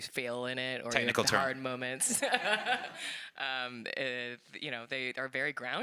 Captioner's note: laughs